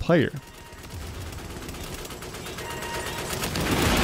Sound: gunfire popping

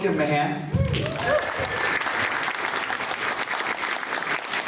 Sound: clapping

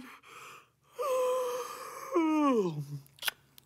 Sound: yawns

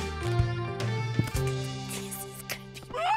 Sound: whispers; laughing

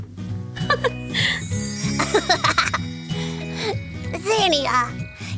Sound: playful giggling

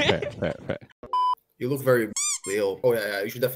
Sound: squeak

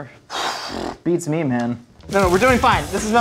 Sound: raspberry blowing

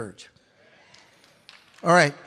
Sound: audience claps

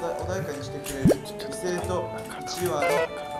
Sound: whispering

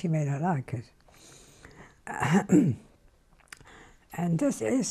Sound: pauses for 3 seconds

